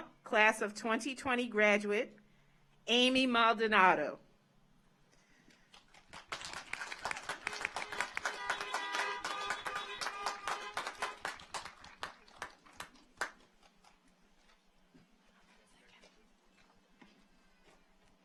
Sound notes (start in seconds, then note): 5.7 car horns honking; 5.7 audience applauds